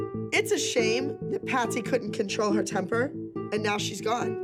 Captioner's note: none